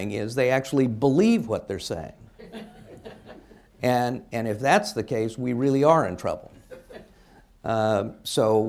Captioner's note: laughter